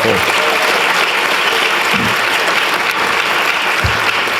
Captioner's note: applause